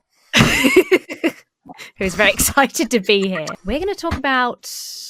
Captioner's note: laughs